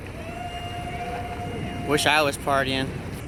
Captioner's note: yelling in celebration